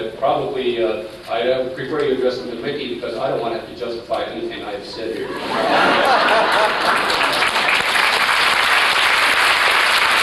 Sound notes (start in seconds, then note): 5.2 laughter; 6.0 applause